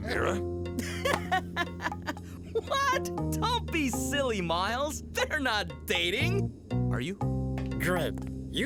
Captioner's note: laughing